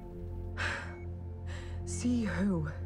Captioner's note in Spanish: Suspiros